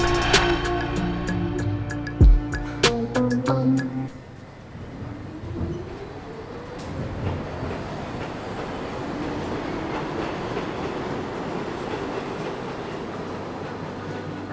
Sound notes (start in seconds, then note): 5.7 subway leaves